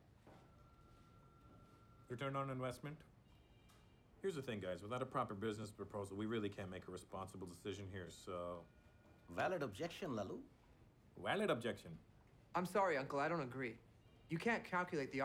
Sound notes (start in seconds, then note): none